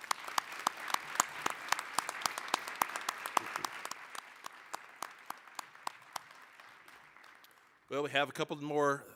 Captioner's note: applause